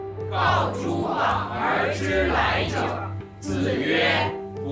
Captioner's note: hablan un idioma extranjero